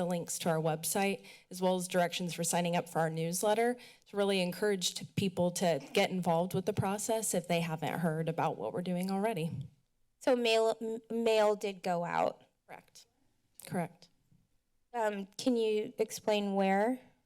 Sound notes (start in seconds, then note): none